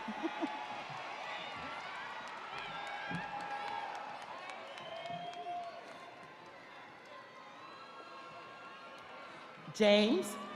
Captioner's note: audience applauding; audience cheering